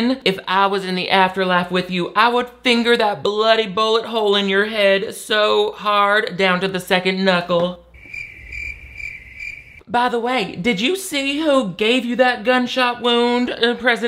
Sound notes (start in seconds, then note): 7.9 cricket chirps